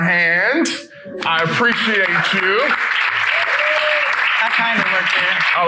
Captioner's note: people clapping